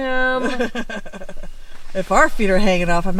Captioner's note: giggling